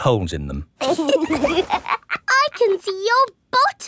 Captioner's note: laughs